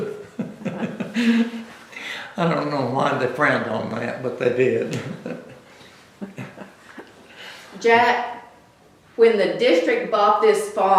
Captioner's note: laughs